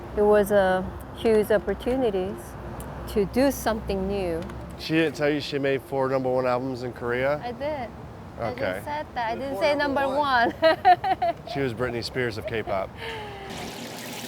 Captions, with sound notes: It was a huge opportunity to do something new. - She didn't tell you she'd made four number one albums in Korea? - I did. - Oh, okay. - I just said that! I didn't say number one. (laughing) - She was Britney Spears of K-pop.